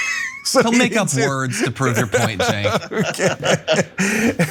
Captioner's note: laugh